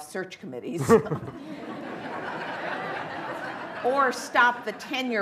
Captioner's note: laughter